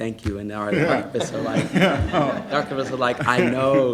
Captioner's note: laughing